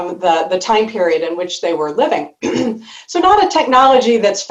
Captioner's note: clears throat